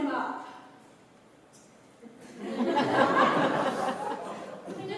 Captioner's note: laughter